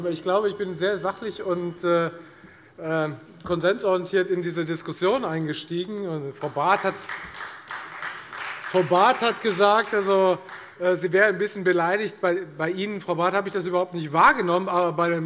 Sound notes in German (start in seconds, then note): 6.4 Beifall Freie Demokraten